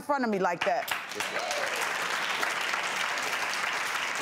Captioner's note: applause